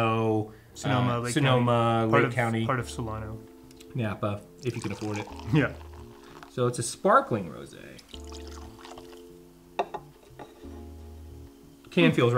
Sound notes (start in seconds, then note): 4.5 wine trickling in glass; 7.9 wine trickling into glass